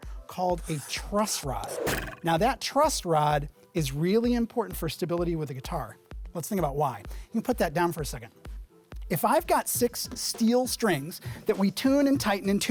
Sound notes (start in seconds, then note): 0.6 pencil scratching; 0.6 arrow twanging